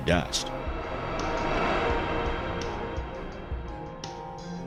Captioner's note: air whooshing